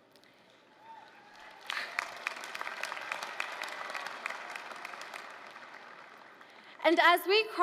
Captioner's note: applause